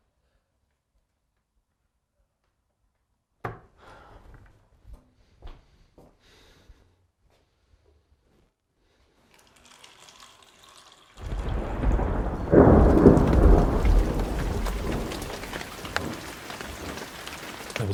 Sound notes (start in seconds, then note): 3.3 hand thuds; 3.8 Marcus sighs; 9.2 water pattering; 11.2 thunder rumbling; 15.1 rain pattering